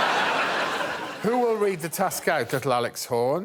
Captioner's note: laughter